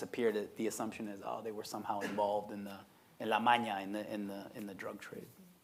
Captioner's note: speaking Spanish